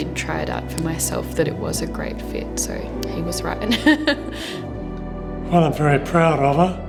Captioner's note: laughs